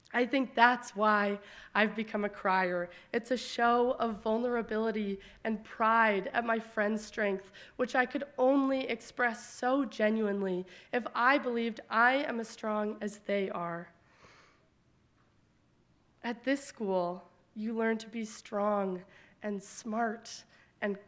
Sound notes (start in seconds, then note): none